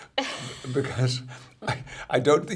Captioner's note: laughs